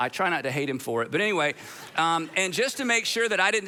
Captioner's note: audience laughs